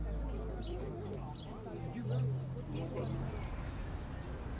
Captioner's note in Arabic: ثرثرة الناس